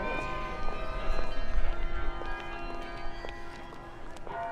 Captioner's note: bells chiming